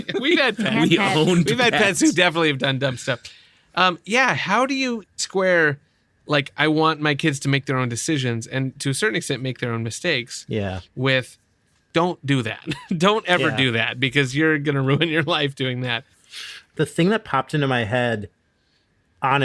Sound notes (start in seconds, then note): 0.0 laughter; 0.0 laughing